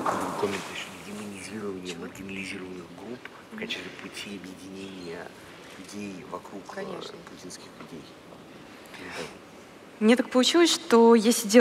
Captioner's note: foreign Language